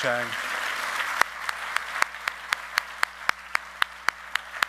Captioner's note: all clapping